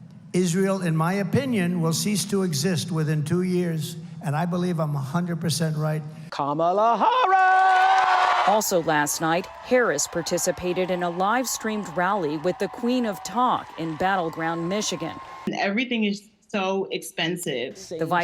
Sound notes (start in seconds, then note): 8.5 applause; 8.5 cheering